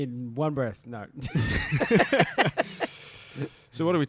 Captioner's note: laughter